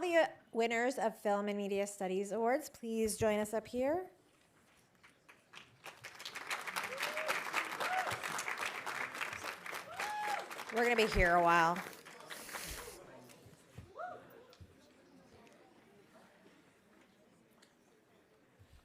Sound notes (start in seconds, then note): 6.2 audience cheering; 6.9 audience applauding